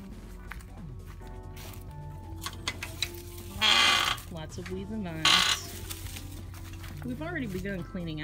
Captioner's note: creak